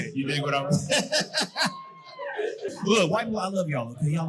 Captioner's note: laughing